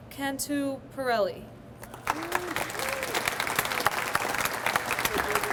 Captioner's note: audience applauds